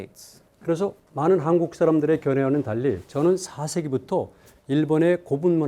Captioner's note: speaking in Korean